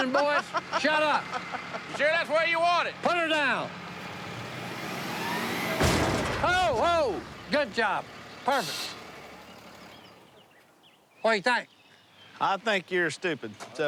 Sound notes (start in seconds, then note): 0.0 laughter; 4.0 thud